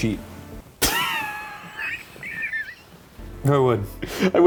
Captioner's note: laughing